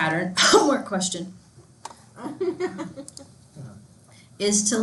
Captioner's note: student laughs